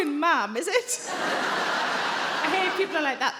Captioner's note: crowd laughs